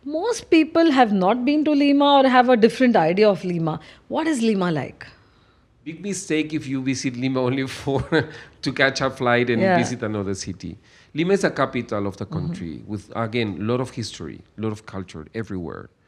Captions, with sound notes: Most people have not been to Lima or have a different idea of Lima. What is Lima like? Big mistake if you visit Lima only for [laughs] to catch a flight- Yeah ... and visit another city. Lima is the capital of the country- Mm-hmm ... with, again, lot of history, lot of culture everywhere.